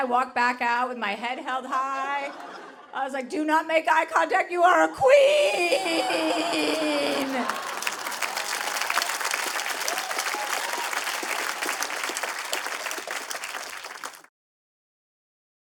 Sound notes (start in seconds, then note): 6.3 applause